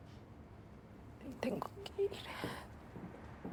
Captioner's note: tearfully